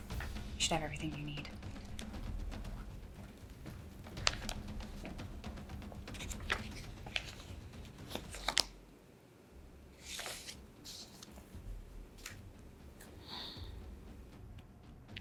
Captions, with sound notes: You should have everything you need. (dramatic music continues) (paper rustling)